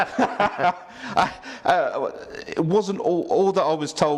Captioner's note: both laugh